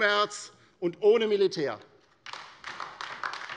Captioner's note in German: Beifall bei der LINKEN